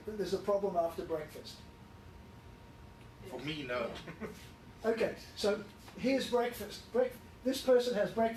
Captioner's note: laughs